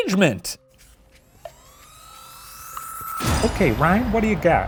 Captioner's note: timer ticking